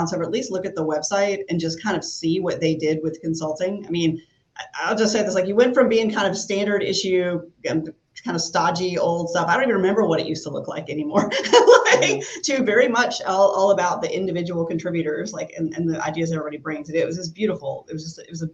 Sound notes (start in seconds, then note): 11.1 laughs